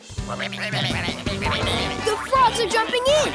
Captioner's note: croaking